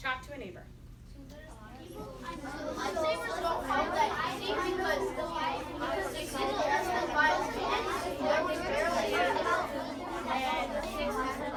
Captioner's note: children talking